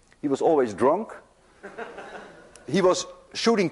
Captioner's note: students laugh